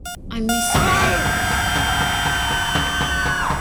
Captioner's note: heart monitor flat lining; Max screaming; intense music